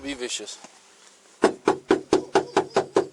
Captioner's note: more barking in background